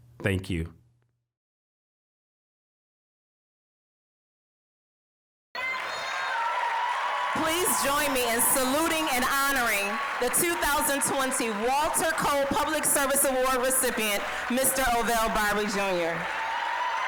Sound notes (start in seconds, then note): 5.7 applause, cheering; 16.8 applause, cheering